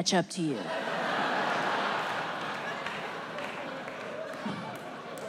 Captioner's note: audience laughs